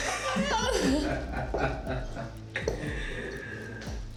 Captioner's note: Ben laughing; Mia crying